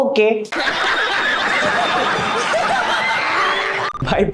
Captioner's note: laughing histerically